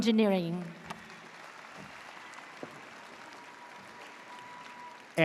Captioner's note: audience cheers